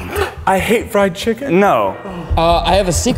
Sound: gasps

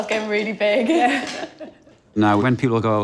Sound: laughs

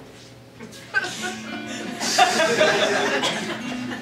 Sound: audience Laughing

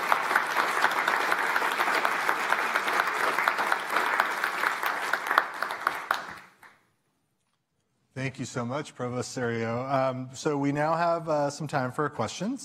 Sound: applause

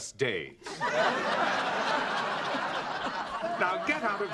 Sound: laughter

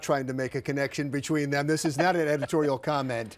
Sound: laughs

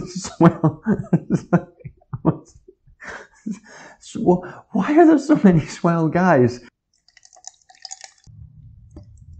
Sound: laughter

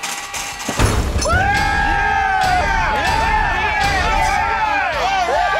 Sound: cheering

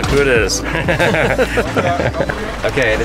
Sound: laughter

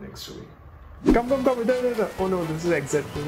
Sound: speaking foreign language

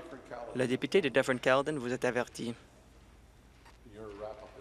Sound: voice trailing

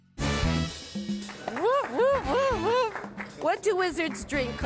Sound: cheering

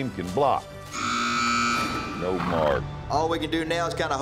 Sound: buzzer sounds

